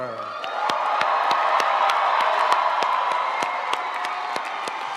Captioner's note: audience cheering and applauding